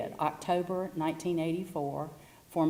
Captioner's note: none